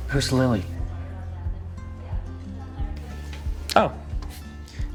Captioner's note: students chattering; gentle music continues